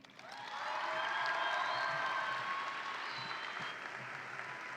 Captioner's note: audience applauds and cheers